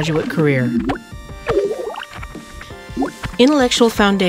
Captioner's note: computer sounds